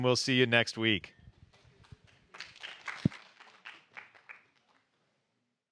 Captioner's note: applause